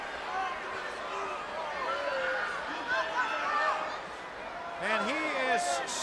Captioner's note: crowd chatter